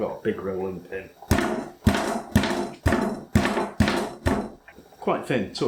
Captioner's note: bang bang bash bang bang